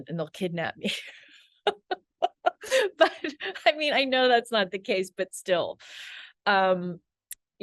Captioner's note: laughs